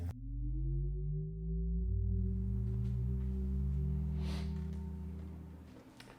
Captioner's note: humming